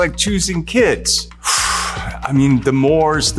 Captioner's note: exhales intensely